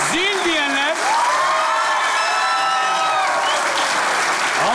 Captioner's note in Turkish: Alkış ve ıslık sesleri